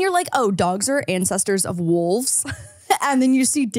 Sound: laughs

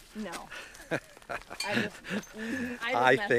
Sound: laughs

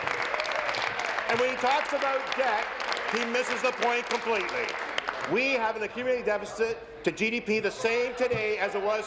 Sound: applause

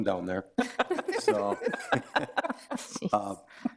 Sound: all laughing

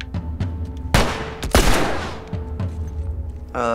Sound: gunshots

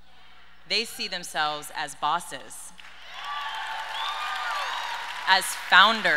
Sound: audience cheers and applauds

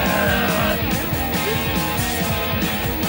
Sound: shouts!

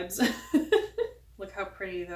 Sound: laughs

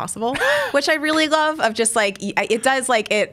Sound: laughs

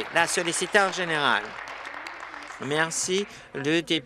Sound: applause

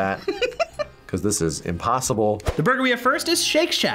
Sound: laughs

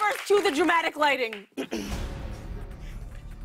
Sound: clears throat

